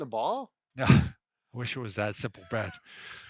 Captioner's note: scoffs